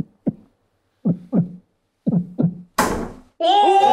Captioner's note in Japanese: セルフse：心臓の音; 机を叩く音